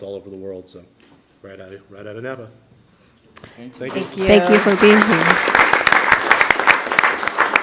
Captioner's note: applause